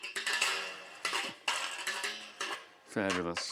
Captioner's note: creaking